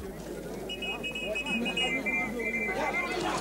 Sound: whistle blows

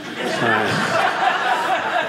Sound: audience laughing

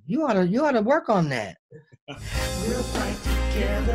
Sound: laughs

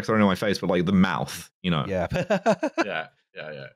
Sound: laughs

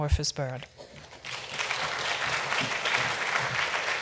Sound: clapping

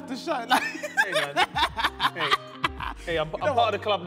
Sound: bursts out laughing

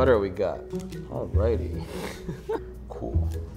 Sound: laughs

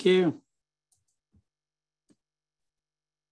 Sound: mouse clicks

